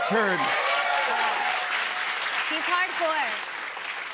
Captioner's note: cheers and applause